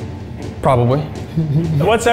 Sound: giggling quietly

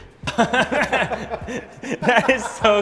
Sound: laughing

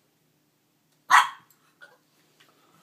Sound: yips

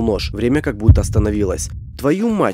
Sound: heartbeat

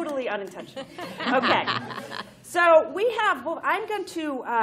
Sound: laughter

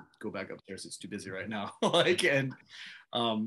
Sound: laughs

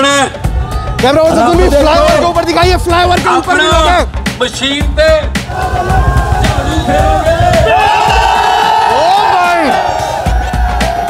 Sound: crowd cheers

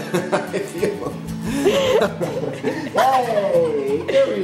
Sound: laughs

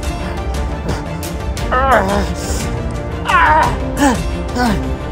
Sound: Miller groaning

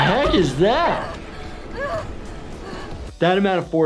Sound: woman panting

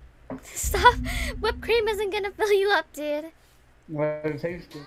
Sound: laughing

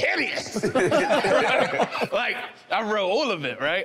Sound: everyone laughing amusingly

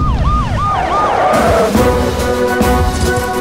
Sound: brakes squeak

